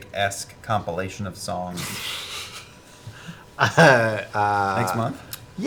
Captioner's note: laughs